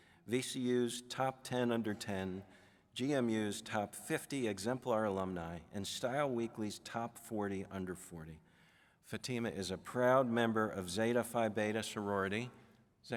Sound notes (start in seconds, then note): none